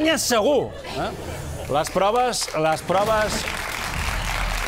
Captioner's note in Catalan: aplaudiments